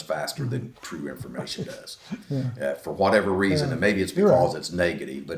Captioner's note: laughs to self